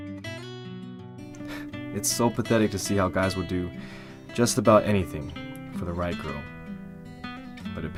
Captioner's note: scoffs